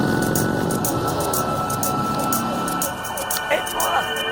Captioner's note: sirens approaching